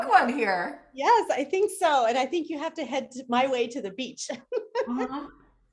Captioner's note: laughs